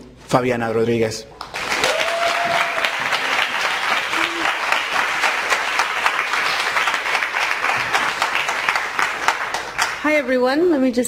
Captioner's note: applause